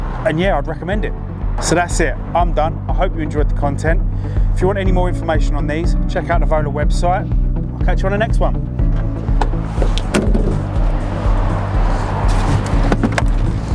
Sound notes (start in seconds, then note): 7.8 upbeat music; 8.7 traffic whooshing; 9.3 door slams